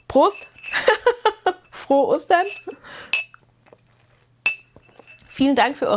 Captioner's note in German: gelächter